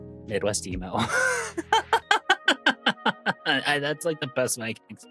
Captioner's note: laughs